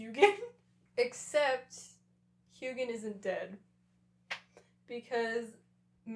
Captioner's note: laughter